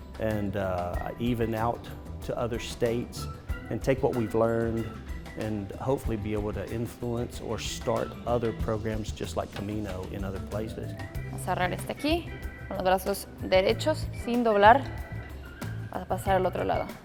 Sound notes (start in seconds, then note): 11.3 speaking in foreign language